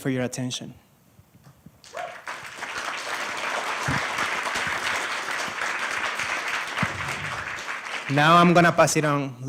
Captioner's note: applause